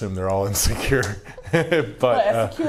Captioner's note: laughing